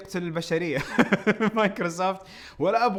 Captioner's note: laughs